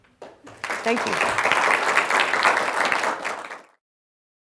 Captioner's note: applause